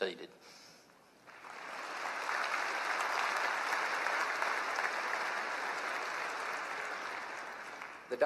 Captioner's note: applause